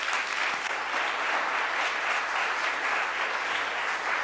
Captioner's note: audience applauds